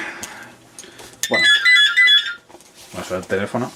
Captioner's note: phone ringing